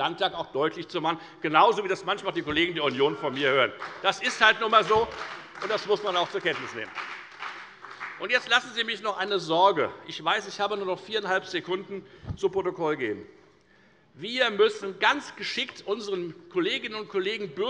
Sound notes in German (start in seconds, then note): 6.6 Beifall bei der FDP und bei Abgeordneten der CDU